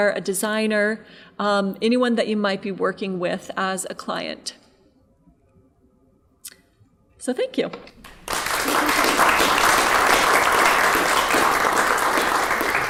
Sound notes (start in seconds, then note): 8.0 audience applauding